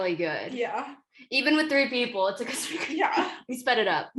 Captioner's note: laughter